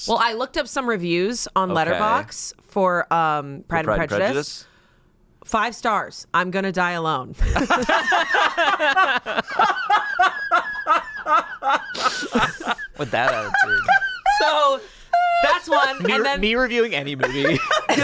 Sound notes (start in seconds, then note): 7.4 group laughs